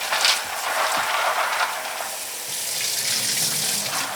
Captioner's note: water running